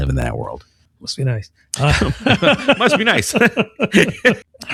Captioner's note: uh